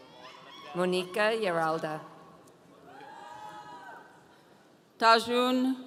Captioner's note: audience cheering